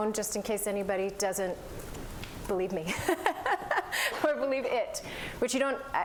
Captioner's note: laughter